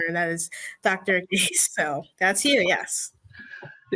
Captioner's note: chuckles